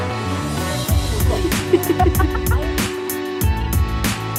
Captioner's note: laugh